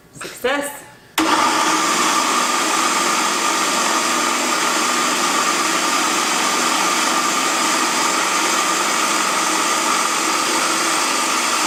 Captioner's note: loud food processor noise